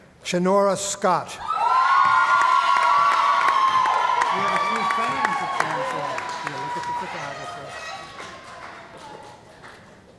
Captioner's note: cheering & Applause